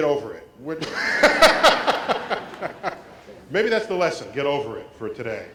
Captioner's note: laugh